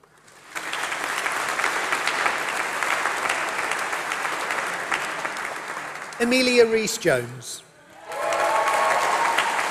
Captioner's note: applause